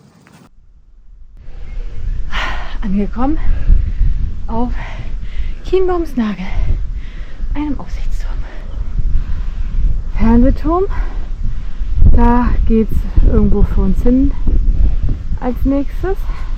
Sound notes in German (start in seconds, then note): 1.8 seufzt